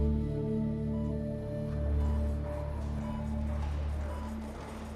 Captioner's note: heart monitor beeps